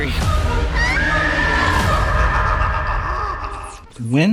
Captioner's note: scream